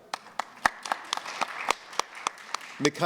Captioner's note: applause